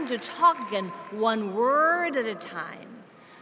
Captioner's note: cheers and applause